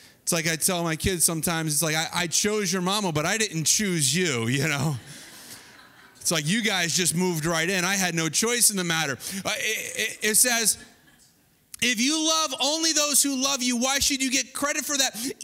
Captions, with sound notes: It's like I tell my kids sometimes, it's like, I chose your mama, but I didn't choose you. (audience laughing) It's like, you guys just moved right in. I had no choice in the matter. It says, if you love only those who love you, why should you get credit for that?